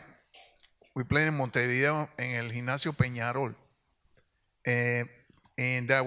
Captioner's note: speaks in Spanish